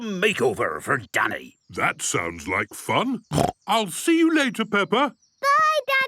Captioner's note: snorting